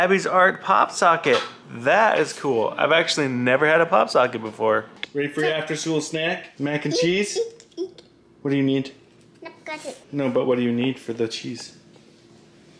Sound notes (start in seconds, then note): 9.7 babbling